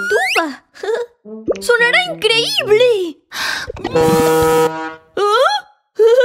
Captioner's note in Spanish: Sonido de corneta